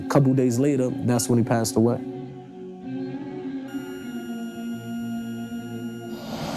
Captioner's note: heat rate monitor flatlining